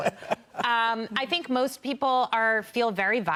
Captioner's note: laughter